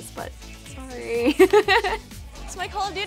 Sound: laughs

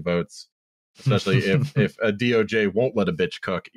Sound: chuckles

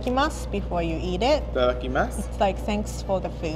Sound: speaking in foreign language

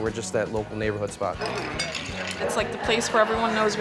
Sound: ice clinking

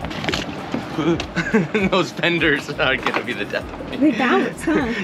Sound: chuckles

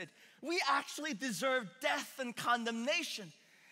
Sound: none

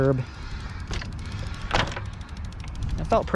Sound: bike motor whirring

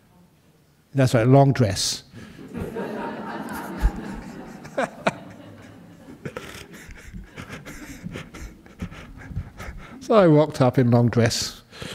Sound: laughter

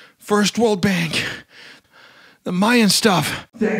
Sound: deep Breath

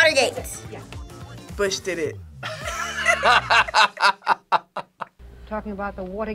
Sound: group laughs

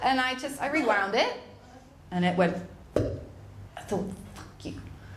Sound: makes popping sound

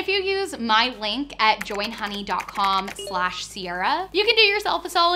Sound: keyboard letters clicking

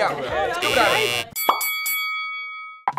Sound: buzzer blares; boxing ring bell rings

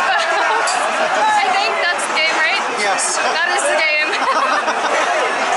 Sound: laughter

